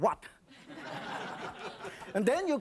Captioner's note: audience laughs